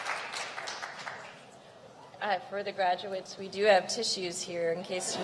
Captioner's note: applause